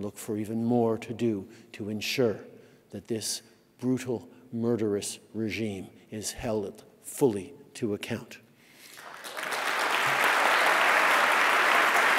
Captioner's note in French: Applaudissements